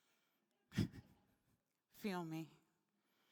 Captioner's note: laughing